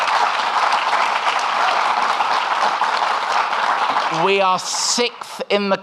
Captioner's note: audience clapping